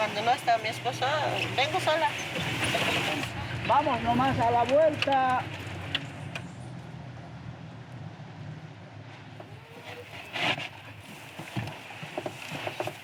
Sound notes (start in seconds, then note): 3.9 speaking in foreign language